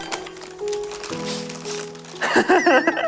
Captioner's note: sniff sniff